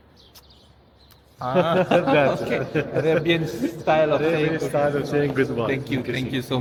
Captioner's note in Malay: ketawa